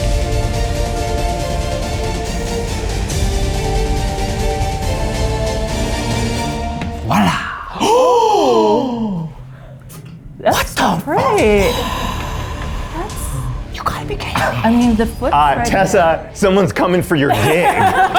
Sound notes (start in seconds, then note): 0.1 dramatic music; 7.0 group gasps